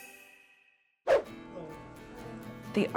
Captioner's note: upbeat music; swoosh; gentle music